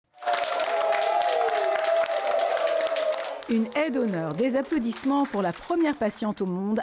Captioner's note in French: applaudissements